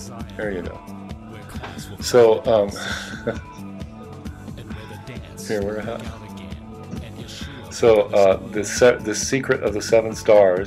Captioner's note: laughs